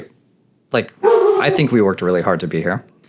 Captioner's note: dog barks